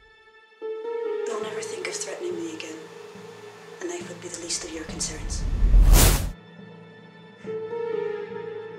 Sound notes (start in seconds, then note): 5.3 whooshes